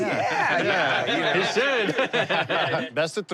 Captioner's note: laughter